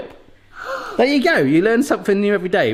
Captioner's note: gasps